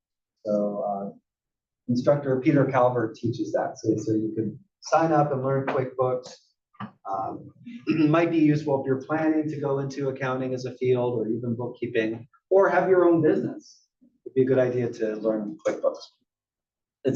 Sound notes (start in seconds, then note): 7.8 cough